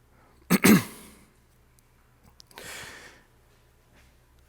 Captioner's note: clears throat